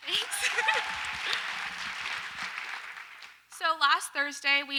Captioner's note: audience applauds